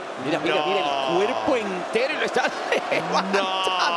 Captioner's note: laugh